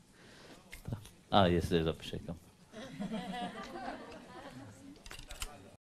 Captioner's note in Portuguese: risos